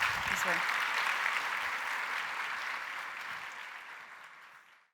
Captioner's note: applause